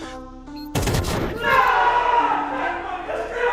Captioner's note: gun firing; players exclaiming